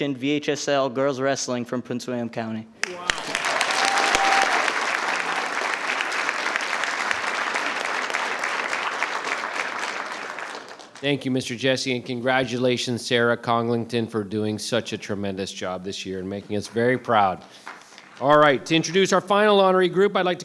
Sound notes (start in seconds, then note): 2.8 attendees applauding; 2.8 attendees cheering